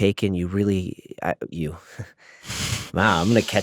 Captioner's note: chuckles